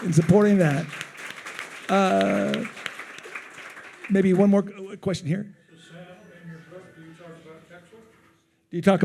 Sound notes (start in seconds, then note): 0.0 attendees applauding